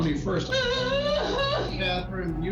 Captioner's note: wailing